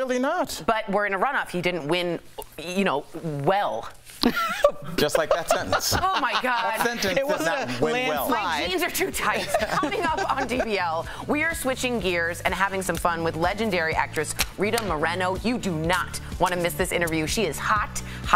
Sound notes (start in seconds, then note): 11.0 laughter